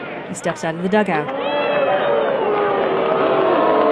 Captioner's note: crowd booing